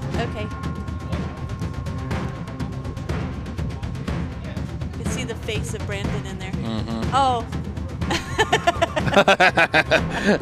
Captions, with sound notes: Okay. You can see the face of Brandon in there. Oh. (laughing)